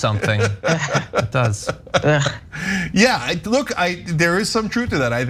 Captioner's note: laugh